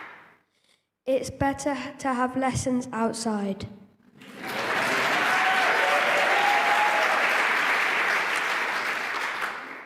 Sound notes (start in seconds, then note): 4.2 applause